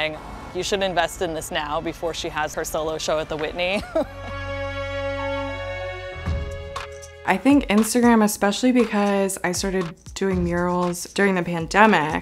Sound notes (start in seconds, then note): 3.7 laughs